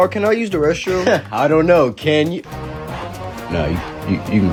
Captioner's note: laughing